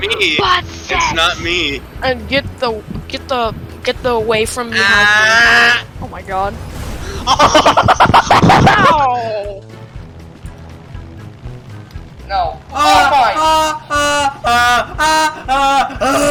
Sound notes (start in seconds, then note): 6.9 exercising rapid inhalation and exhalation